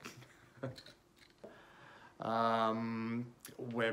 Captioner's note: chuckles